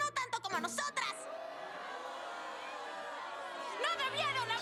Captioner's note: crowd booing